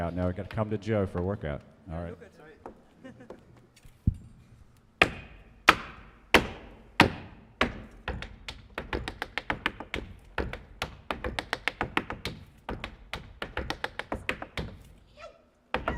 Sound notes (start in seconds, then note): 2.9 laughs; 5.6 shoes rhythmically tapping